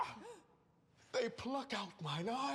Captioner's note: gasps